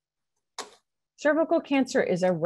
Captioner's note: mouse clicks